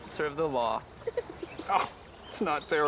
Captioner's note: laugh